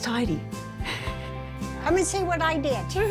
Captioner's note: laughing